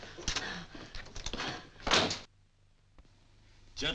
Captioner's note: door bangs shut